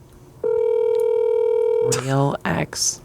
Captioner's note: phone rings